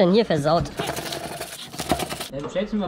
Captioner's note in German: kratzen